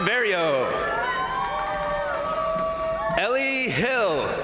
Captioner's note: crowd cheering; crowd applauding